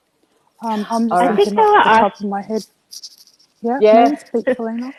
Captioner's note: both talking in unison